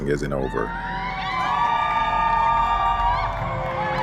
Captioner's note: crowd cheering